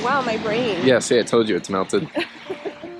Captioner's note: laughs